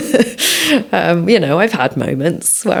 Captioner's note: laughs